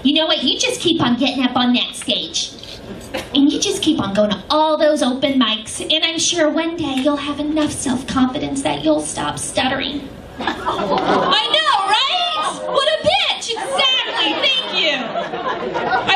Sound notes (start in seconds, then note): 10.4 audience moans; 13.5 laughter